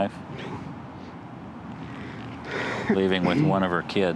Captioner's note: sobs